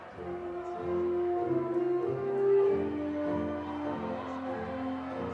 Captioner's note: attendees chattering